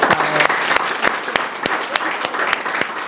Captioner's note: applause